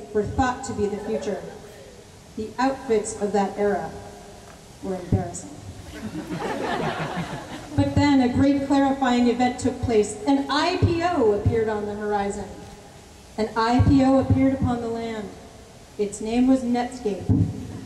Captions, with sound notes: were thought to be the future. The outfits of that era were embarrassing. [LAUGHTER] But then a great clarifying event took place. An IPO appeared on the horizon. An IPO appeared upon the land. Its name was Netscape.